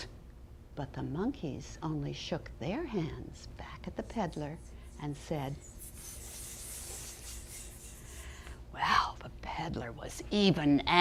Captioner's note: hissing sounds